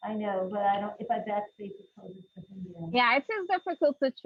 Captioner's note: faintly speaking